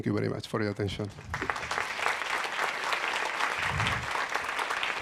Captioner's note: audience applauds